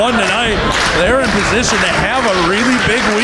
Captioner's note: audience clapping